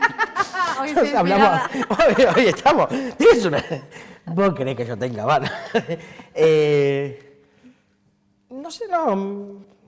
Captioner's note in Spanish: Risas